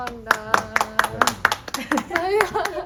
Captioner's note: applause